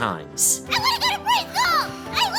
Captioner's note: sighing